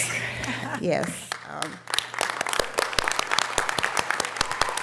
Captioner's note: audience applause